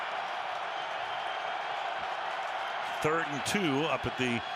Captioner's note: cheers